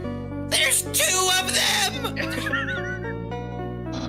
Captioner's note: laughs